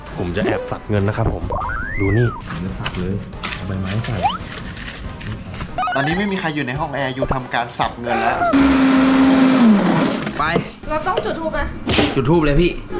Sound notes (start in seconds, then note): 8.5 motor running